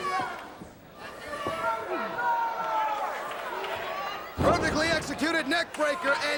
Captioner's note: crowd chatter